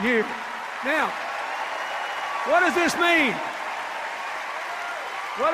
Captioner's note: cheers and applause